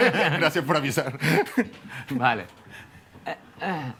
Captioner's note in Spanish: riendo